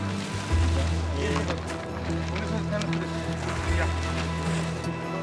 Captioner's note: Spanish language